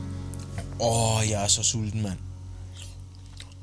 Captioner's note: Danish